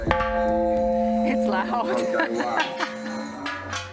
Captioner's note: laughs